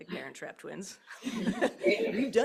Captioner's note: laughter